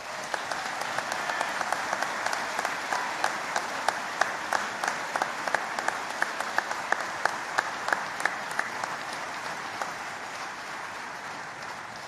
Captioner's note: applause